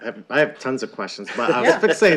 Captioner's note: laughter